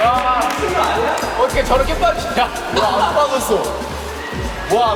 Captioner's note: Kekalahan mengundang tawa keras